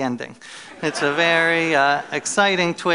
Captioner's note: laughter